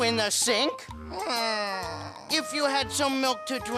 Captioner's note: groaning